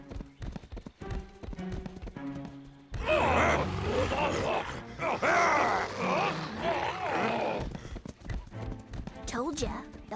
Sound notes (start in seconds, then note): 1.3 muttering